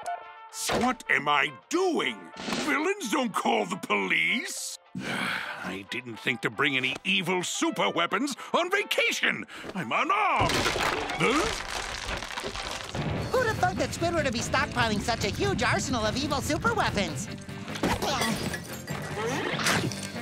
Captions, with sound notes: What am I doing? Villains don't call the police! [sighing] I didn't think to bring any evil super-weapons on vacation! I'm unarmed! Huh? Who'da thunk that Squidward would be stockpiling such a huge arsenal of evil super-weapons?